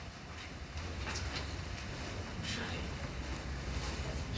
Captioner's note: whispers